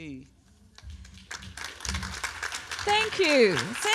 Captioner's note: applause